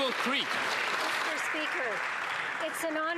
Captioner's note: some Applause